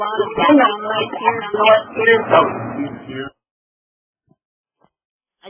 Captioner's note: audio feedback